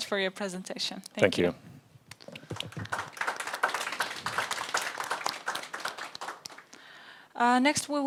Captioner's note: audience applauds